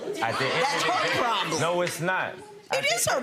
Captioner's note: audience chatter